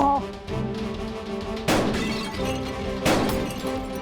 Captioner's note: gunshot; clay pigeon explodes